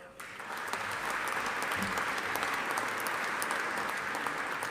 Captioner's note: audience applauding